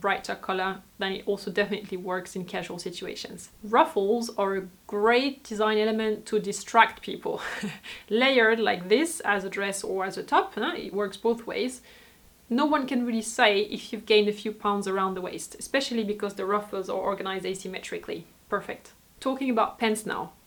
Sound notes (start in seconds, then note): 7.4 laughs